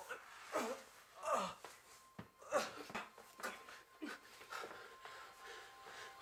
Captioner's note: groaning